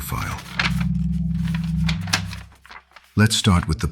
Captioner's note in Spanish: mapa desplegándose